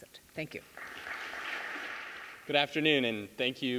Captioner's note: audience clapping